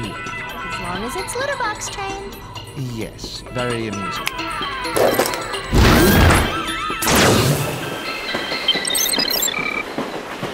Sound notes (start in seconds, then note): 5.8 screaming